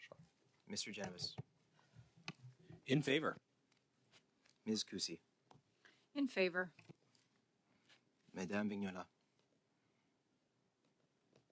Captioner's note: calling of recorded vote